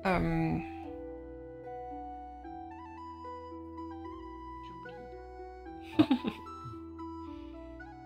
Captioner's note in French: Rire